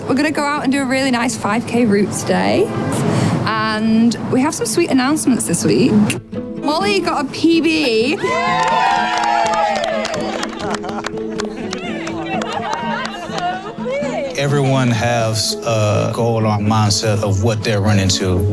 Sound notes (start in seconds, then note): 7.8 runners cheering